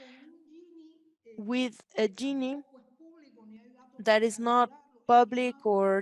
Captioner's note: speaks Spanish